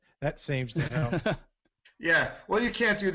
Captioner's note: laughs